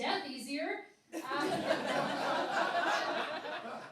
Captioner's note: laughing